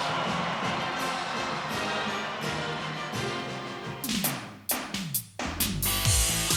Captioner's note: spectators cheering; majestic music; upbeat music